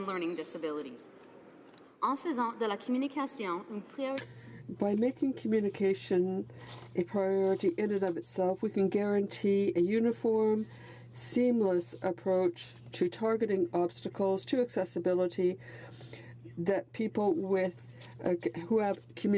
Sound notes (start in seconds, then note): 4.8 speaking French